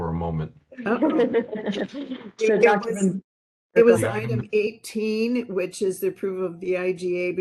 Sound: laughing

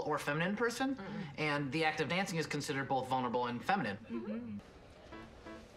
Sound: rest of group ‘mmhmms’

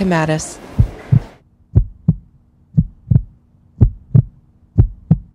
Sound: heartbeat in background

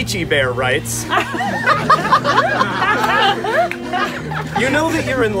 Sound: crowd laughs

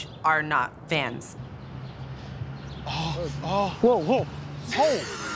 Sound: moaning

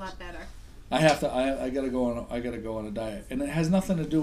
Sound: voiceover

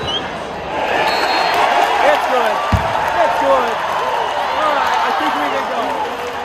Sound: crowd Cheering

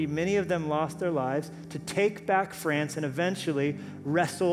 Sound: none

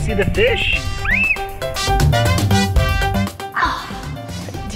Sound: squealing

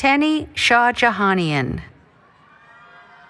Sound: cheering

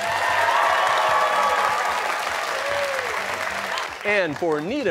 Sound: cheers and applause

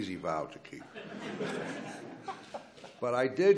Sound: laughs

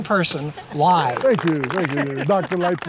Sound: applause

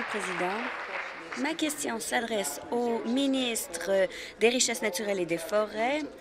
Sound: applause

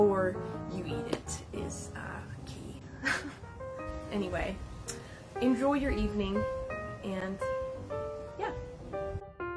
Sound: laughs

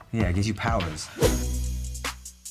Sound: air whooshes; intense hip-hop music

